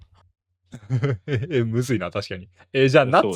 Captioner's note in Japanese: 笑い